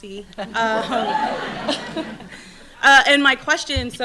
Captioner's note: audience laughing